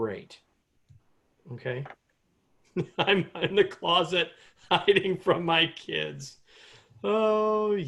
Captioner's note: laughter